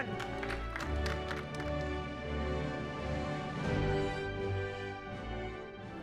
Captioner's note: audience applauding